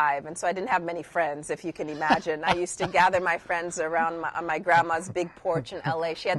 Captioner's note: laughs